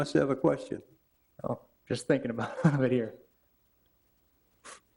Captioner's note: laughs